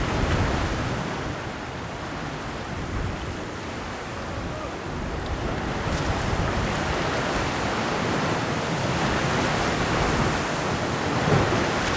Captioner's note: wind blowing